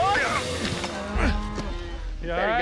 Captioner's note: grunts